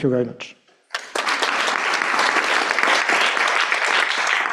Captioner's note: applause